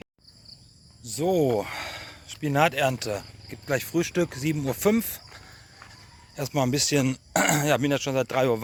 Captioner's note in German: seufzt; räuspern